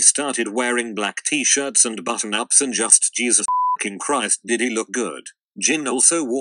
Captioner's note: beeping